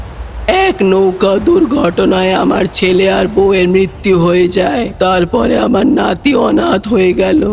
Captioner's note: devil’s voice